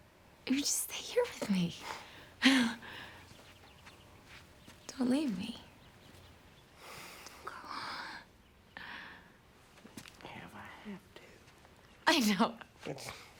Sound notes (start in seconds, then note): 1.7 laughing